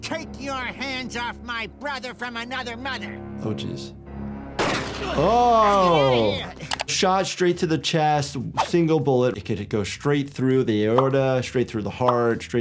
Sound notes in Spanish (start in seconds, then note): 4.6 disparos; 5.1 jefe gime